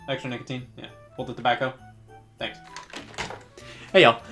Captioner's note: hangs up